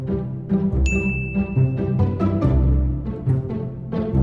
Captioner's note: bell chiming